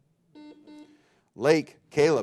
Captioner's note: buzzer beeping